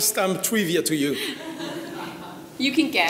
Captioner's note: audience laughing